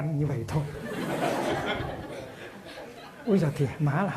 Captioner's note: audience laughs